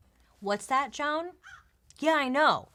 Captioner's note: crow cawing